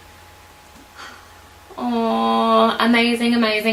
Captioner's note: sighs